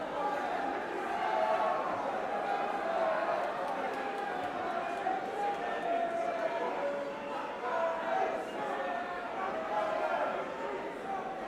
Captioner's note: crowd chatter